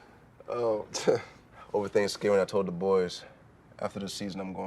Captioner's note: scoffs